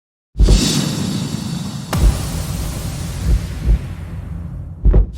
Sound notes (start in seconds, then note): 0.4 logo whooshing